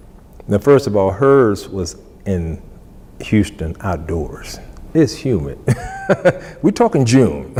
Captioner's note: laughs